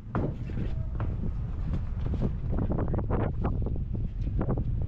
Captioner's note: wind blowing